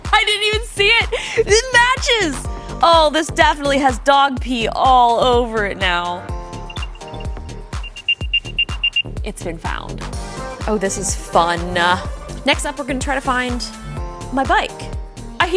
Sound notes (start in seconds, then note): 9.6 rapid beeping